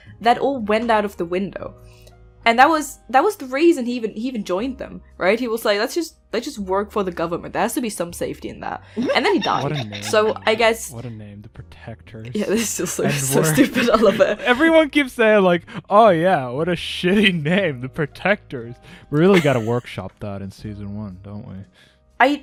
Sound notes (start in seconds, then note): 9.0 laughter; 12.4 laughing; 12.4 laughs